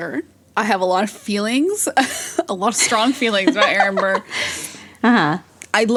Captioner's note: both laugh